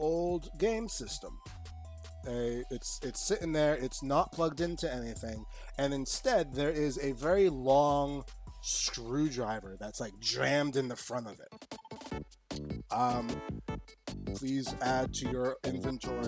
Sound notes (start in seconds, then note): none